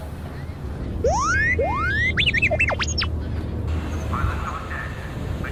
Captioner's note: alarm beeps